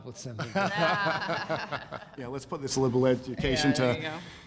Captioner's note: laughter